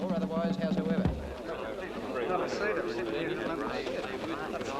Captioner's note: crowd murmuring